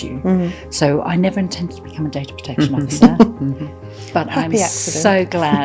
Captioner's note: laughing